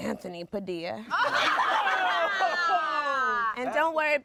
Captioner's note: everyone laughs